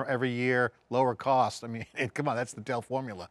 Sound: chuckles

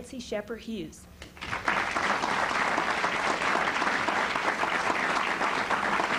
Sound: applause

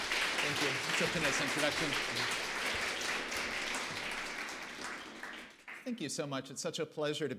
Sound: applause

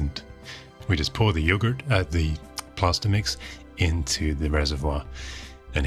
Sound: American accent

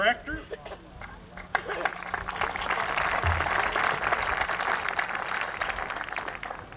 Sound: applause

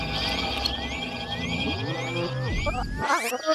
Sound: camera whirs

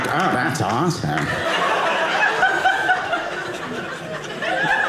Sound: audience laughing

